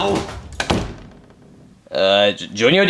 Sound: door thuds

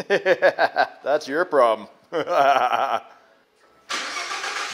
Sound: laughter; laughs; engine starts

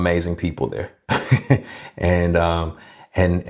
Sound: laughs

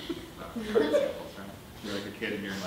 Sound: audience laughing

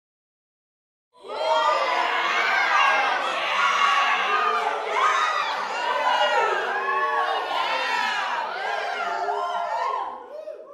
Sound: young crowd voices

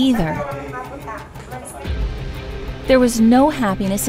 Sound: arguing in foreign language

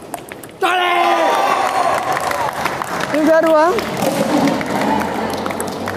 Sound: applause

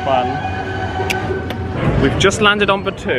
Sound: seatbelt clicks

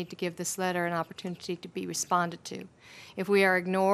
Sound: off microphone

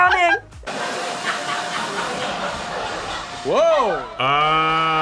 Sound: audience laughs

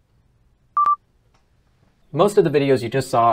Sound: beep

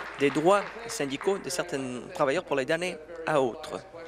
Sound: applause

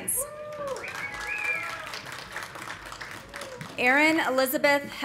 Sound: audience cheering; audience applauding

